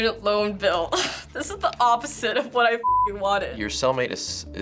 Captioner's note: chuckles